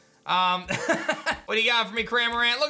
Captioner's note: chuckles